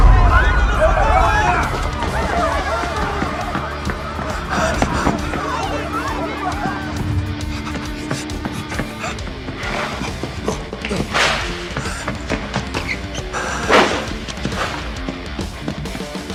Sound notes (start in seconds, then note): 0.1 people screaming; 2.1 people shouting; 4.6 panting; 9.2 both panting